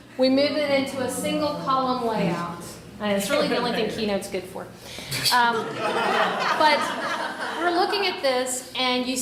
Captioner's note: laughter